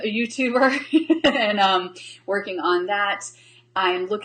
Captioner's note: laughs